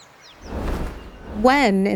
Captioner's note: screen whooshes